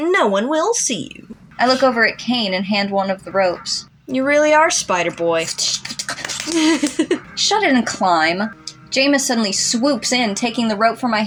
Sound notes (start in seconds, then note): 4.1 sputtering; 5.4 laugh